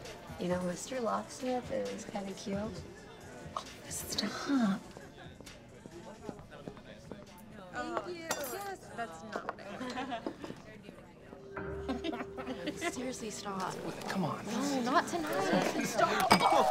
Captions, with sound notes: - You know, Mr. Locksmith is kinda cute. - Oh, stop. Oh. - Thank you. Yes. - That's not what I ordered. [Cindy chuckles] [both laugh] - Seriously, stop. - Come on. - No, not tonight. Stop. Ah!